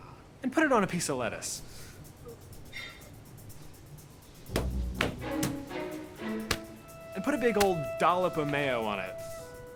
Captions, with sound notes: and put it on a piece of lettuce. (upbeat stirring music) (ingredients thumping) And put a big old dollop of mayo on it.